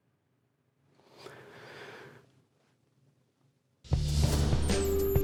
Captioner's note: man sighs; relaxing music